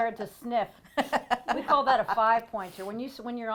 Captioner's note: laughing